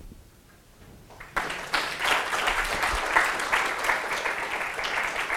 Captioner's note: applause